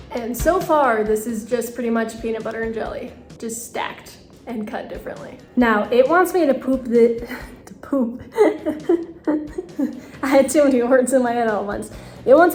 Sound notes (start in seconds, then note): 8.2 laughs